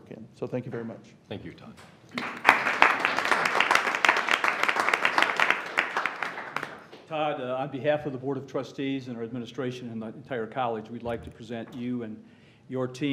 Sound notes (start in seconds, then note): 2.1 applause